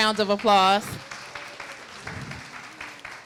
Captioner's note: applause